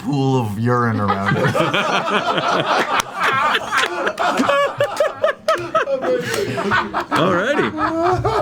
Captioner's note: all laugh